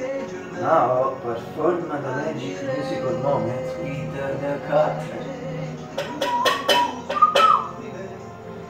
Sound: whistle

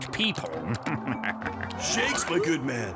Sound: chuckling

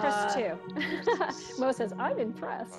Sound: laughing

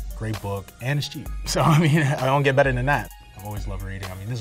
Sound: chuckles

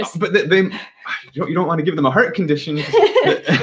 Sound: stammering; laughing

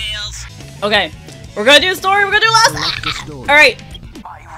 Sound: gagging sounds

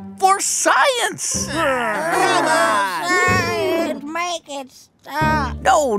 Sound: groan

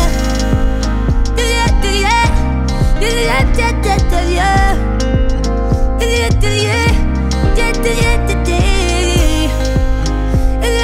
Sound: vocalizing

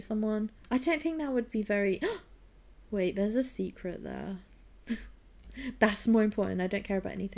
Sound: gasps

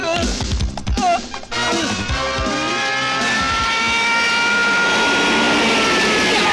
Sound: police Sirens Wailing

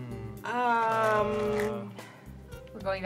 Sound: chorus of ummmms

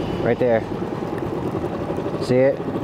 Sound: boat engine purring

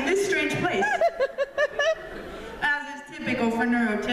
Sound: laughter

